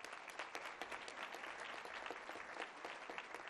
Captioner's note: applause